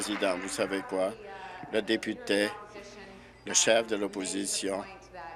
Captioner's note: applause